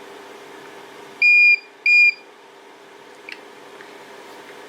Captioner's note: beep, beep